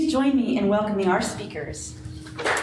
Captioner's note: audience clapping